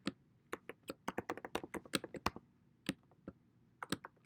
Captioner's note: typing